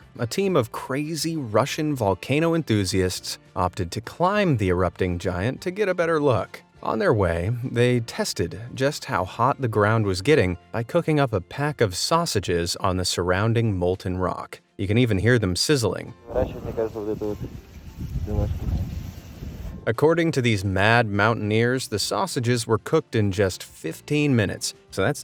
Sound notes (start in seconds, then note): 16.3 filmmaker speaking Russian; 17.9 sausages sizzling